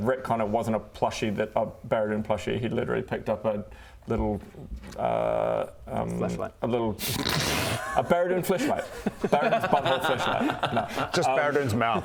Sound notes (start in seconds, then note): 7.6 snickering